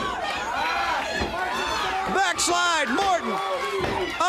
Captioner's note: crowd chatter